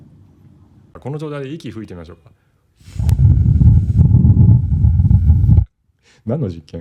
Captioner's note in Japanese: ※息を吹きかける音